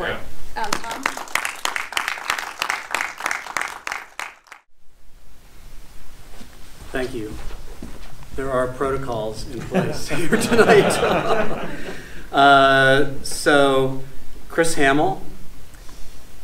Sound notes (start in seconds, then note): 0.6 audience applauding; 9.6 audience laughs